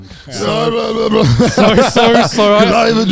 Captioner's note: groaning loudly